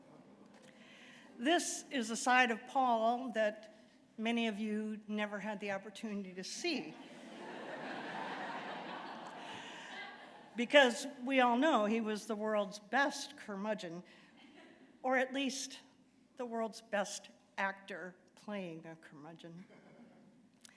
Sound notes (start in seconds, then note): 7.0 laughter